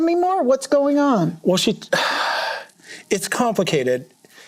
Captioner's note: sighs